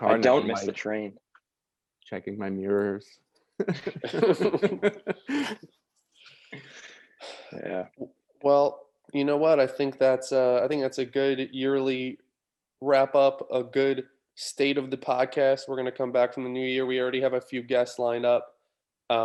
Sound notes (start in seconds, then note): 3.6 group laughing